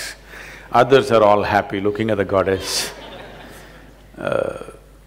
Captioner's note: laughter